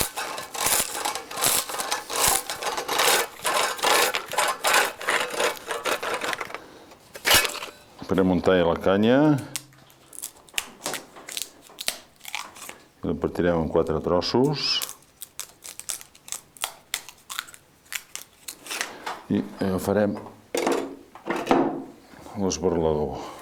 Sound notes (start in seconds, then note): 0.0 sound of a cane being shaved by a tool; 5.8 sound of a cane being splitted by. a tool